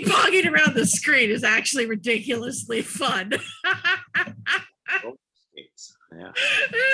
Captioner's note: laughing